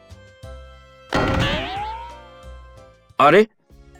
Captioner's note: boing